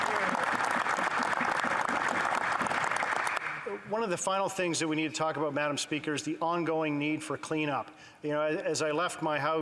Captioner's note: applause